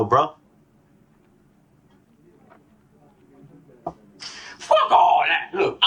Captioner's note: awkward silence